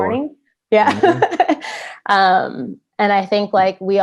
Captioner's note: laughs